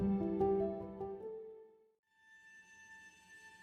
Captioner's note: none